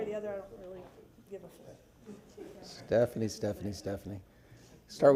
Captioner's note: laughter